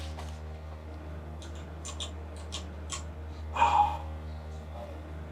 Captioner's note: flashlight clicking